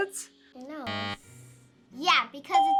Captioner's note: buzzer